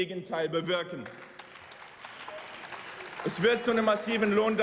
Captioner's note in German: Beifall